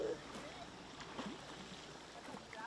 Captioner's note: kids chattering